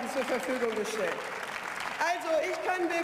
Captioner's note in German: Beifall